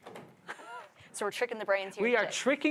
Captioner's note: chuckles